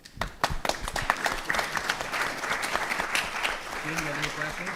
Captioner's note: audience applauds